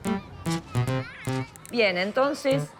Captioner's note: kids yelling